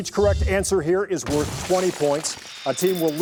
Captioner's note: crashing sound